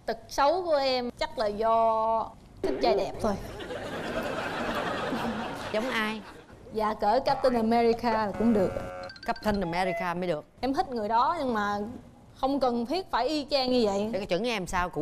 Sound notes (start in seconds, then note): 3.4 laughing